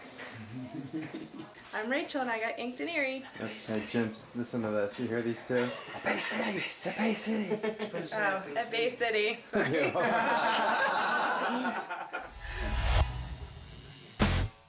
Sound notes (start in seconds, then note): 9.6 crowd laughter; 12.2 outro Sound